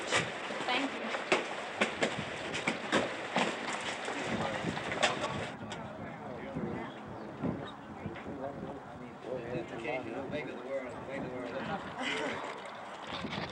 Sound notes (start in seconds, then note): 4.0 people talking in background; 11.5 chuckles